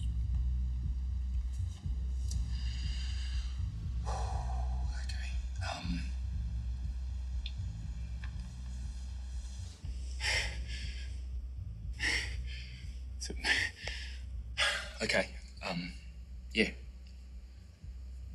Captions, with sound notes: (exhales) Okay, um ... (heavy breathing) Sorry. Okay, um, yeah.